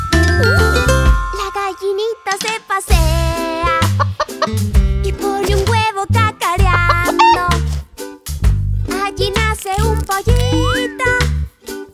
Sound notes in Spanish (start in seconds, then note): 3.9 Sonido de gallina; 6.7 Sonido de gallina